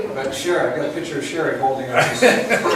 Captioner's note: laughs